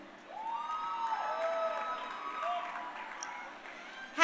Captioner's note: crowd cheering